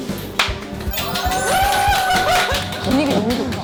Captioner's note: cheering applause